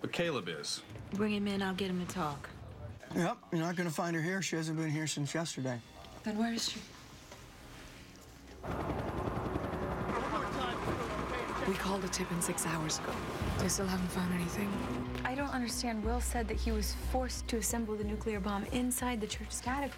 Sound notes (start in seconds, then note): 8.6 helicopter blades whirring